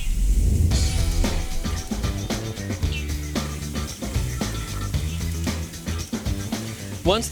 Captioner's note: sizzling